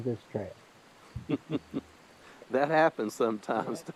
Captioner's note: laughing